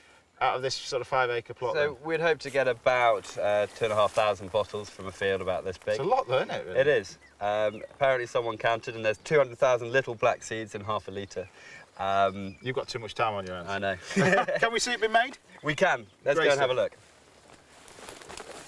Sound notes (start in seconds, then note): 13.8 both laugh